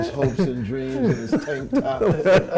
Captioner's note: Michael and Bryan laughing